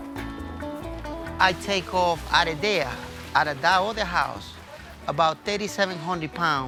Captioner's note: laughs